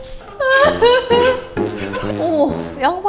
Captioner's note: crying